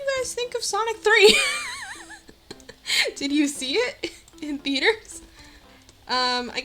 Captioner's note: bursts into laughter